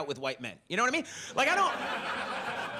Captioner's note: audience laughs